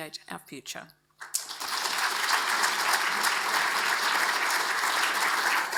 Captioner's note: audience applauds